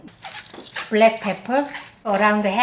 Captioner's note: pepper grinding